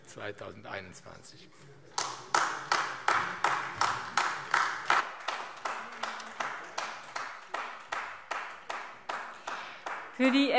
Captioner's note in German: Beifall AfD